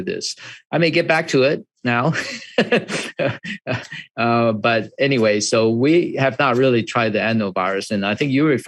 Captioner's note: laughs